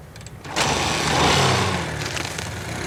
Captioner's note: engine starts